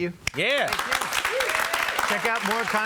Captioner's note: applause